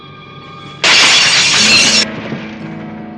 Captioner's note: crash